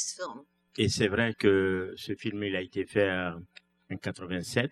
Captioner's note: speaking french